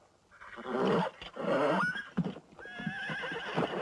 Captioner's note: horse whinnying